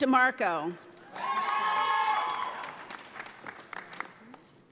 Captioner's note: audience applauding